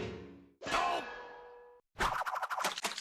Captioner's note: Sam groaning